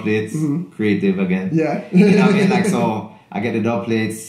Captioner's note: laughs